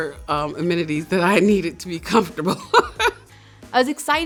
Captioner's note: laughs